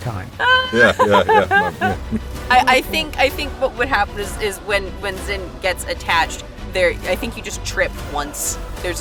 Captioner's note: chuckles